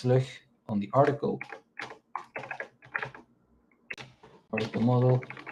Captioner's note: keyboard clacking